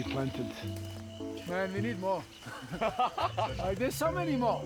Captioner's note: laughing